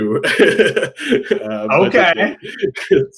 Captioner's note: laughing